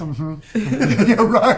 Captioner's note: laughing